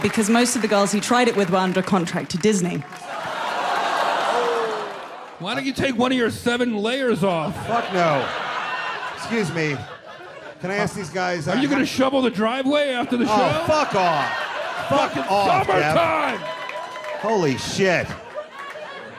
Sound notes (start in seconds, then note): 3.2 people reacting; 14.2 people laughing; 16.7 people cheering